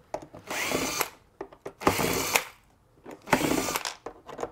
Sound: driver tool roaring

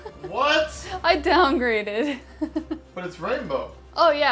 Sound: laughs; laughs

